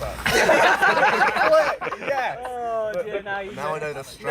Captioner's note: laughter